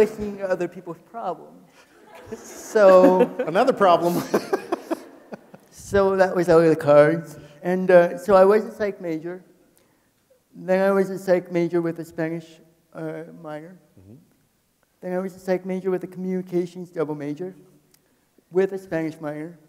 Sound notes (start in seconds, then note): 1.8 people laughing; 5.9 laughs